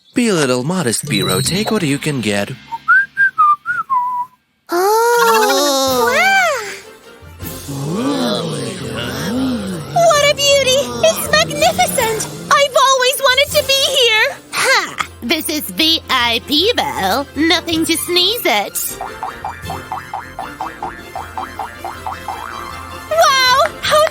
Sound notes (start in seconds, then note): 4.3 whistles; 4.8 enthusiastic hum